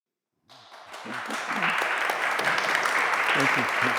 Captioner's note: attendees clapping